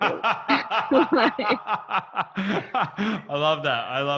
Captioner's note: laughing